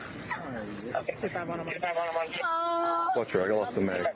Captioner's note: radio chatter